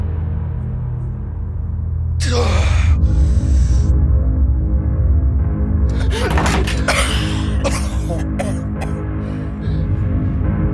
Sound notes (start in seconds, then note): 5.9 coughing